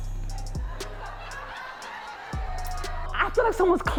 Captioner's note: audience laughing